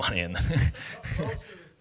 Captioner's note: laughs